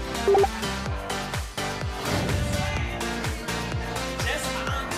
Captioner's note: digital dinging